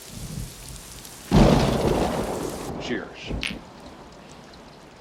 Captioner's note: thundering